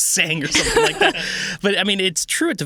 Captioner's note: laughing